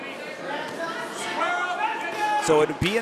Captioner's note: crowd cheering